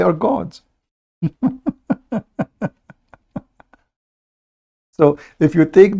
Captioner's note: Ketawa